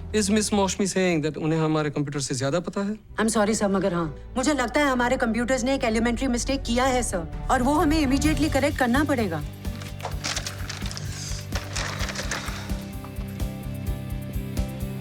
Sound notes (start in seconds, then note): 9.1 papers rustling